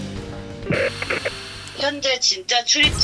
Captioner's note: then a radio announcement comes through